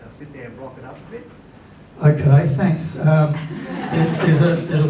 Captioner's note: laughter